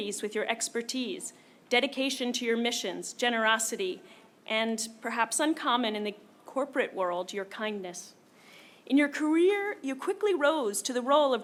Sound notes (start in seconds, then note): none